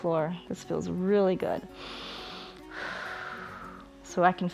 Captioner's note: inhales and exhales